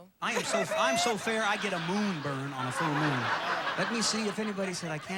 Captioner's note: audience laughing